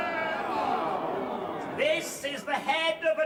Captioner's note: crowd cheering; crowd sighing, disappointed